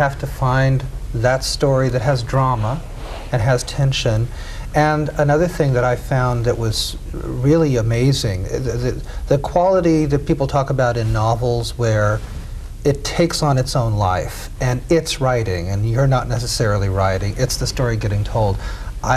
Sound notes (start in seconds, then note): none